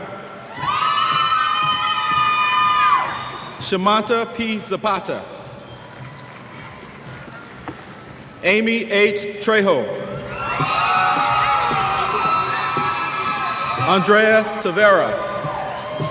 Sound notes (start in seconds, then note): 0.4 cheers; 10.3 cheers